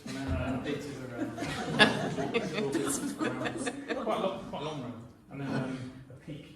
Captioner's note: laughter